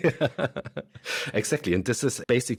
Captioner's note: both laugh